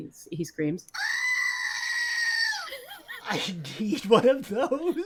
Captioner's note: goat screams